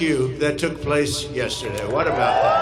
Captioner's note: crowd cheers